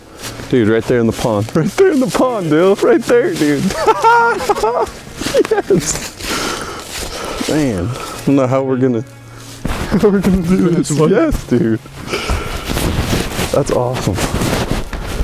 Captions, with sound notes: Dude, right there in the pond! Right there, dude. [Excited laugh and voices] That's awesome.